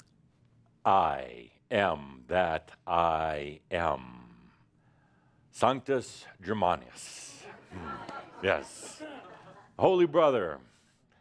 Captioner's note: Adamus chuckles